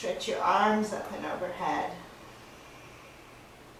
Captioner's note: breathing sounds